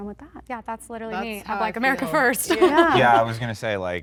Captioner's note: laughing